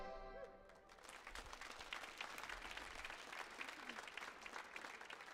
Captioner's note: audience applauds